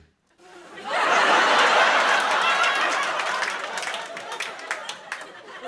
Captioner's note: laughter